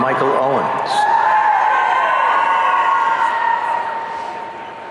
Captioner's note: audience cheering